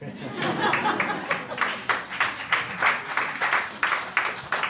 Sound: audience laughs and claps

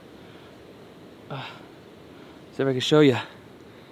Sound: sighs

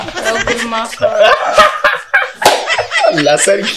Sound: Abubakar laughing

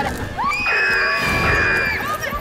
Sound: screaming

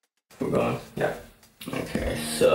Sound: murmuring

